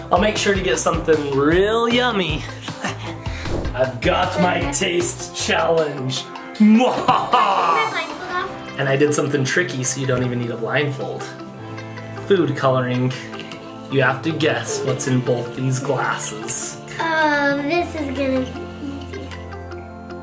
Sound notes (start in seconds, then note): 6.8 evil laugh